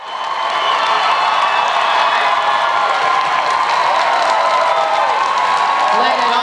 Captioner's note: audience cheering and applause